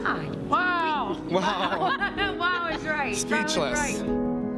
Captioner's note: chuckles